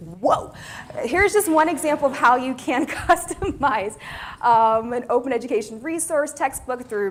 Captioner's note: laugh